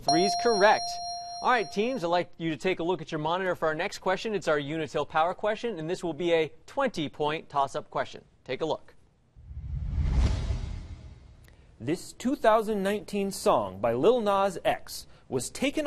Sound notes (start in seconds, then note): 0.0 ding; 9.4 whoosh